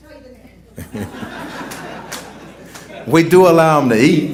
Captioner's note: laughter